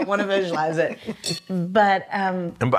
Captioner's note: laughs